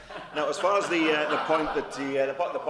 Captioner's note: laughter